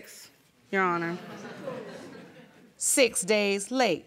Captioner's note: audience laughing